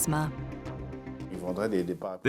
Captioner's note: non-english speech